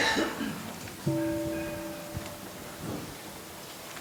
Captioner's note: gong